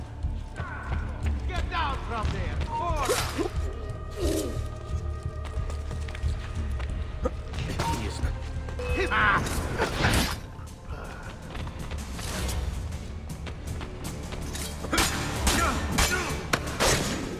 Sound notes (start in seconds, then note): 3.4 hidden blade stabbing sound; 9.6 hidden blade stabbing sound; 14.8 fighting sounds